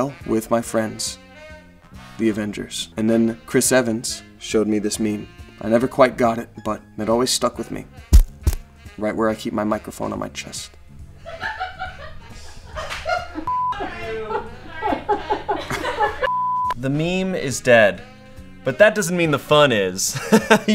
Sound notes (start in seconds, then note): 11.2 laughter; 13.4 beep